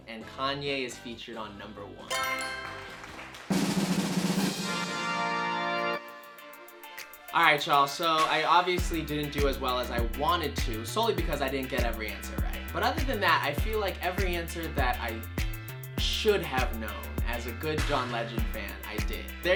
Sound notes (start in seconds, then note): 2.1 answer board chimes; 2.1 crowd claps; 2.8 drum roll music